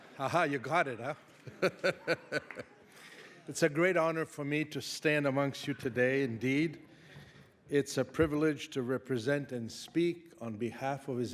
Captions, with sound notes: Ah ha, you got it, huh? (chuckles) It's a great honor for me to stand amongst you today indeed. It's a privilege to represent and speak on behalf of